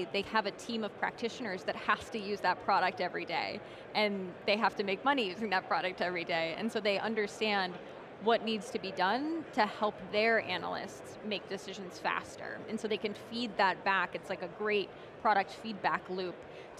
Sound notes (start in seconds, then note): none